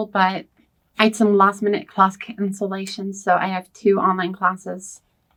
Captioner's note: none